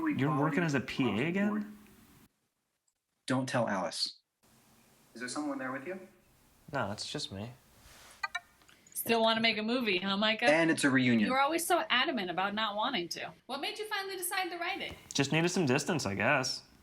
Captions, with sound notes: You're working as a PA again? Don't tell Alice. Is there someone there with you? No, it's just me. [computer ping] Still want to make a movie, huh, Micah? And it's a reunion. You're always so adamant about not wanting to. What made you finally decide to write it? Just needed some distance, I guess.